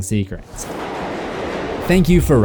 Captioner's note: train rumbling